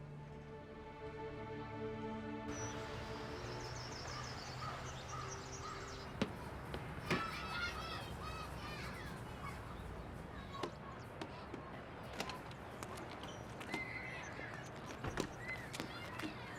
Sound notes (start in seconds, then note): 6.7 children laughing and shouting